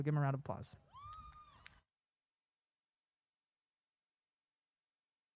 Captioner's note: audience applause